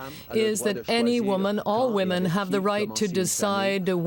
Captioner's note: speaking french